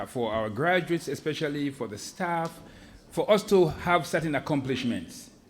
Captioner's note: none